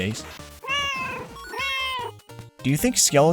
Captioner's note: meow, meow